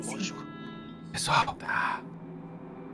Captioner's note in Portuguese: sussurra